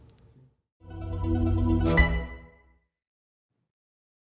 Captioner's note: logo chiming